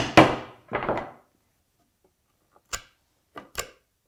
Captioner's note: mallet on chisel tapping; mallet on desk clunking; chisel scraping